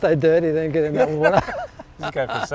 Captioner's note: laughs